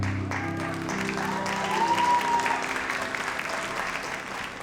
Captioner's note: audience applauds